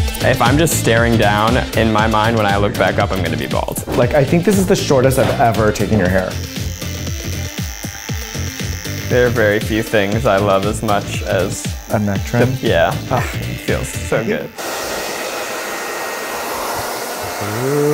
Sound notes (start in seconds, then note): 0.0 upbeat music; 6.6 shaving machine revving; 14.7 hairdryer blowing